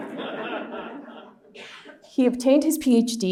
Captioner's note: laughter